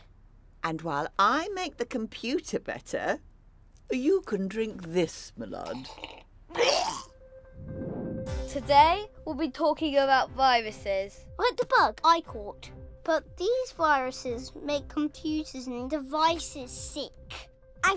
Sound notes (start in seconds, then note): 6.5 sips